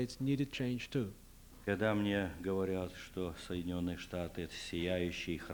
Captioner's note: non-english speech